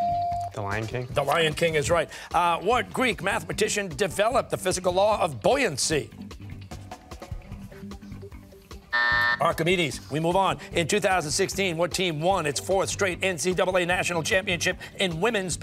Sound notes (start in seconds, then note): 8.9 buzzer sounding